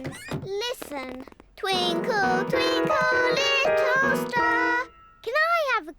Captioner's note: clunks discordantly